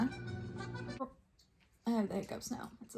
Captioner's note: hiccups